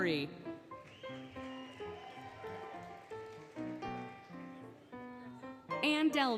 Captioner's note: applause, Cheering, Music